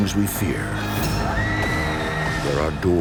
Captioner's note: screaming